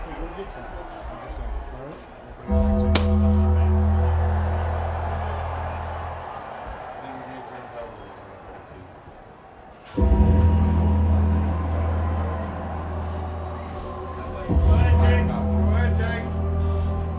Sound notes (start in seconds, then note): 2.5 dramatic music; 2.9 hand slapping; 7.1 crew chattering; 7.1 dramatic music continues